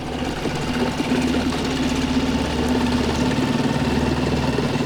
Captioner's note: boat motor rumbling